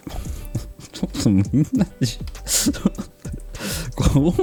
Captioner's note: laughs